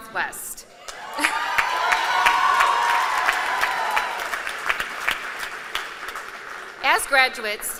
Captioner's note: applause